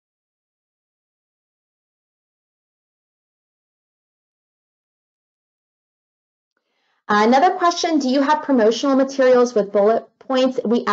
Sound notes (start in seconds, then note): 4.1 silence